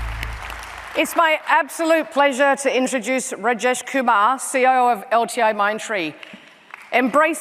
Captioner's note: applause